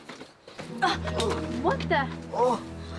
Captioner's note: grunts